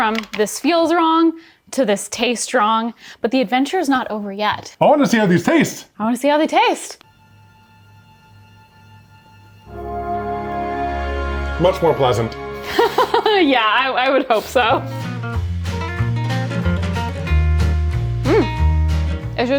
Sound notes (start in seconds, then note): 9.6 upbeat music; 12.6 laughing; 14.9 upbeat music